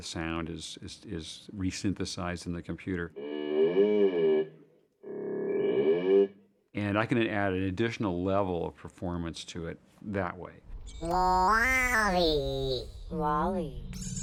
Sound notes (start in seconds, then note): 3.1 modulating sound; 10.7 modulating